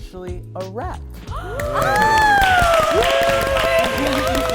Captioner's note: claps